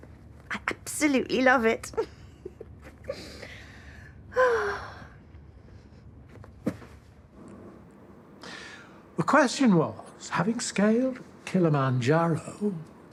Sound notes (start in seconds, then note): 1.9 she giggles; 4.2 she sighs